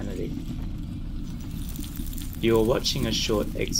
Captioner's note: sizzling